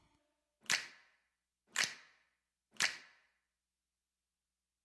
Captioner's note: fingers snapping